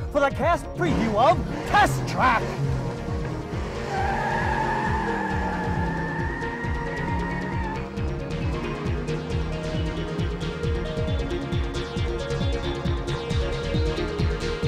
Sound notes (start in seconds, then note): 2.5 engine revving; 2.5 tires screeching; 5.7 upbeat music continues